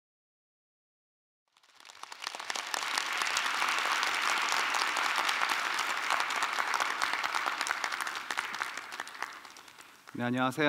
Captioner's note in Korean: 박수